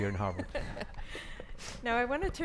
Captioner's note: audience laughs